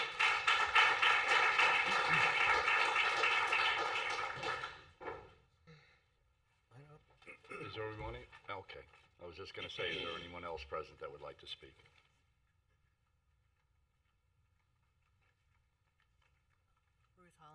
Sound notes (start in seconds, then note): 4.4 applause